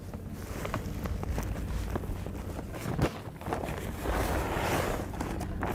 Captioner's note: plastic rustling